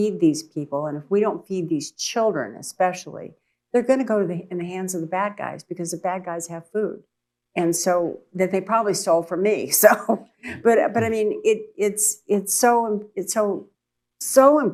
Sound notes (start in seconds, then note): 10.3 laughs